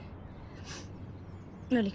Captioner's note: sobbing